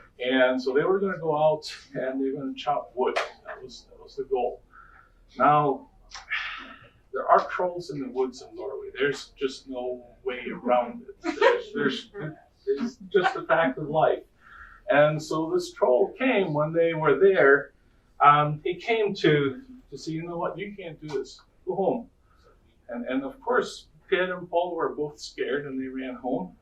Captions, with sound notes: And so they were going to go out and chop wood. That was, that was the goal. Now, there are trolls in the woods in Norway. There's just no way around it. [laughter] It's just the fact of life. And so this troll came one day when they were there. He came to say, "You know what? You can't do this. Go home." And of course, Per and Pål were both scared and they ran home.